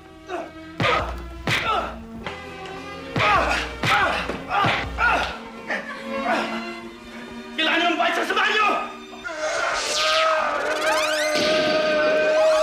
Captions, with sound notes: [grunting, groaning] You need to pay for your evil deeds! [groaning]